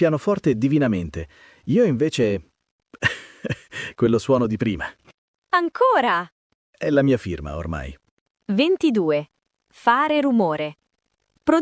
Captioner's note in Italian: risate